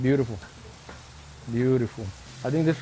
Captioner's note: sizzling